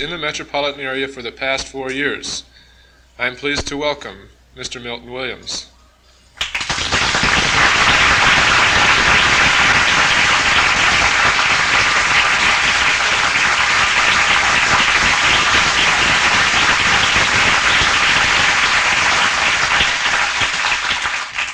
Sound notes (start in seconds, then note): 6.4 applause